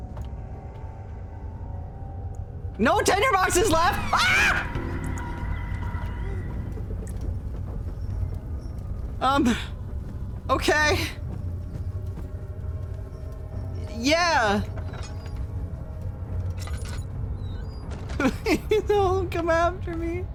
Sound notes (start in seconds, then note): 3.7 screams; 18.2 nervous laugh